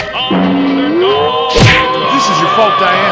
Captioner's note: crash!